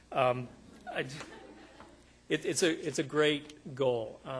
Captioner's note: audience laughing